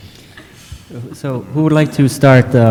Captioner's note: laughing